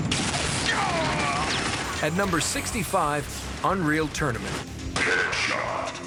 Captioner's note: gunshot; screaming